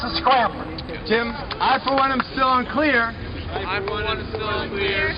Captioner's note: voiceover